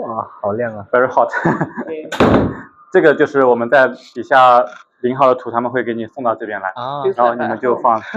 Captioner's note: laughs; laughs